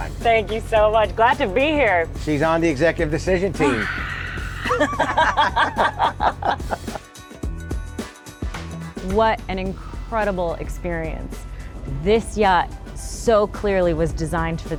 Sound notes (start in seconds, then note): 3.6 group laughing